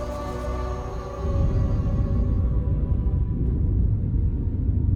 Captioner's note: low hum